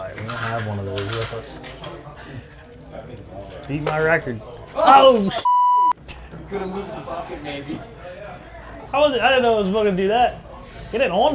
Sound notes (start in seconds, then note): 5.4 beep; 5.8 men chuckling